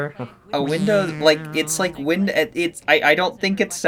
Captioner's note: stammers in the IT incompetence of hospitals